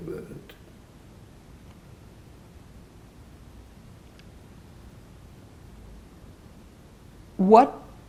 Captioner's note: pauses 6 seconds